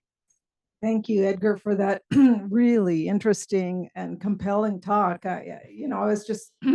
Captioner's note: cough; cough